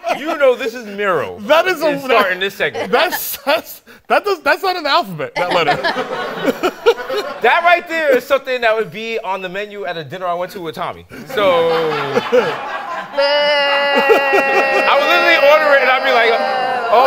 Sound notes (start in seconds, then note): 13.1 booing